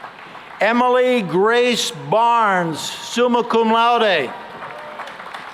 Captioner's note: applause